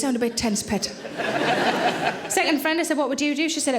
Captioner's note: audience laughing